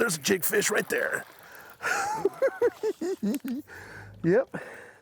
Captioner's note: laughs